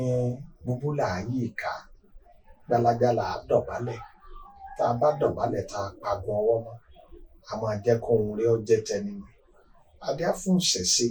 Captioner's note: reciting Ifa verse